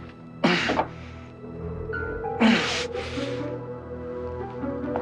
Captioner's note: Silverthorn grunting